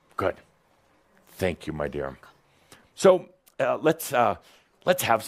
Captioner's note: whispering